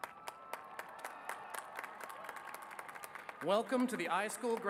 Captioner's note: cheers and applause